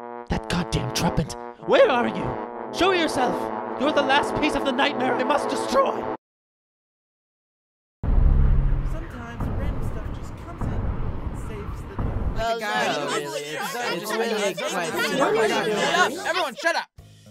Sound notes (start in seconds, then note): 0.0 incidental trumpet; 12.4 they chatter